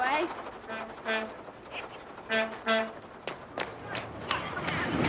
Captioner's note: horn beeping